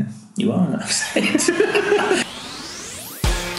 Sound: laughing

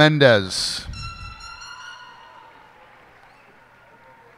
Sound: cheers and applause

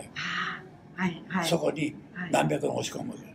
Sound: foreign language

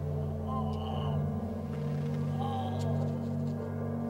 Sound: moans

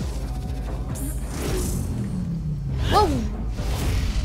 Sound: dramatic music; woosh

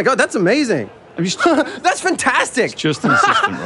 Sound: laughs

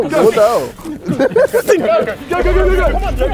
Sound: men laughing

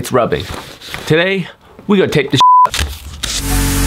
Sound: beep

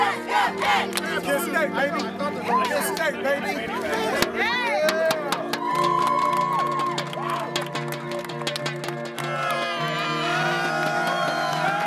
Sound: cheering

